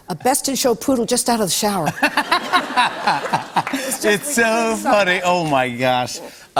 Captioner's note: laughter